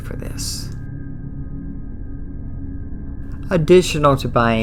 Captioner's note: eerie sound